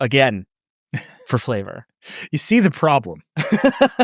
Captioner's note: laughing; chuckles